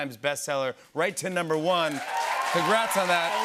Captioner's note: cheers and applause